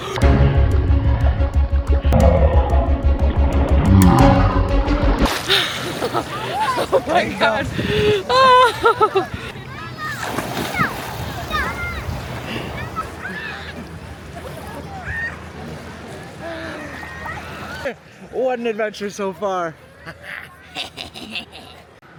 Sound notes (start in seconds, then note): 0.0 intense Music Playing; 5.3 laughs; 7.7 gasps; 20.0 laughs